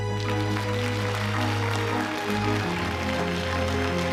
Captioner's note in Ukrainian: оплески